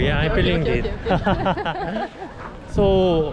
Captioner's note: laughing